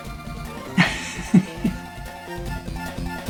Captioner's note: laughs